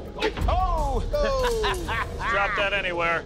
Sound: laughing

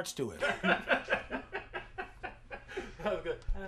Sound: all laughing

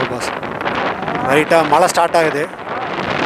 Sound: started raining

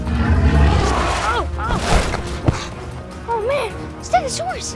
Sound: stegosaurus roars

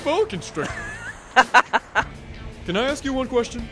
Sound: Turac laughs

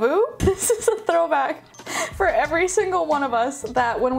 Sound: laughing

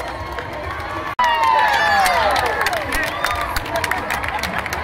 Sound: crowd cheering

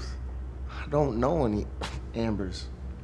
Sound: coughs

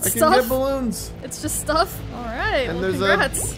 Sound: laughing

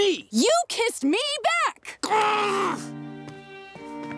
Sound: groaning

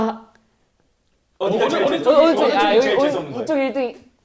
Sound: urgent

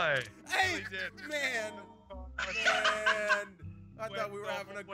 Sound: laugh

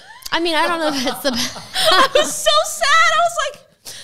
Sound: group laughing

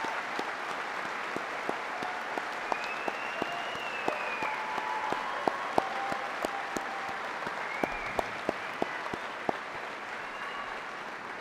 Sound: applause

